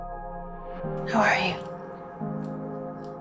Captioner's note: voiceover